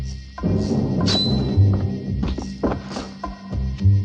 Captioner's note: clinking